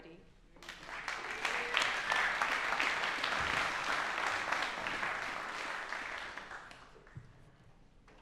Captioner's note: applause